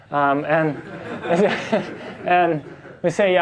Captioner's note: class and instructor laugh